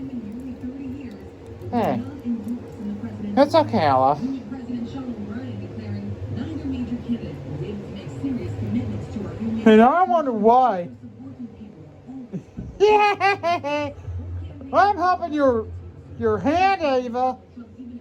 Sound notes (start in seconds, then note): 2.1 slurred; 12.3 laughs and giggles